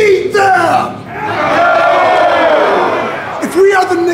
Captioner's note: audience cheering